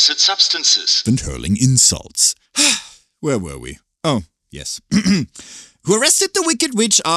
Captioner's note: sigh